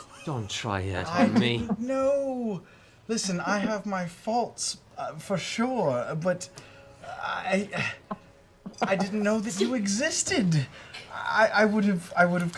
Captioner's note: stammers